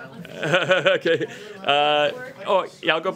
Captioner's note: laughs